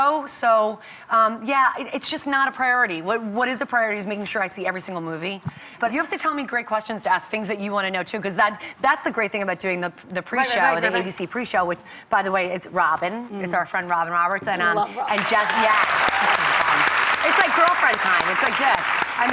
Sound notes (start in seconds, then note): 15.1 applause drowns out speaker; 15.1 applause